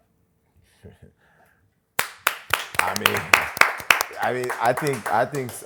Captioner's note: applause